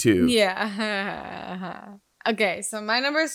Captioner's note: laughs